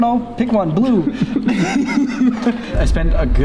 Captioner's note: both laugh